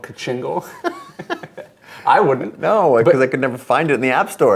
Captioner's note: men laughing